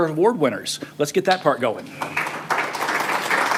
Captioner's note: applause